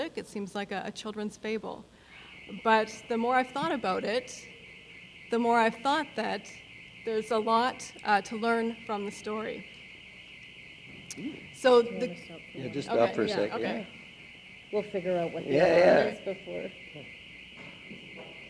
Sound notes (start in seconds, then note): 6.3 alarm sounding